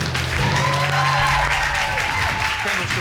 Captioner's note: audience cheering